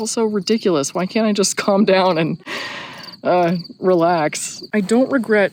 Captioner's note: sigh